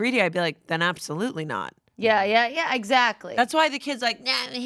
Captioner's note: none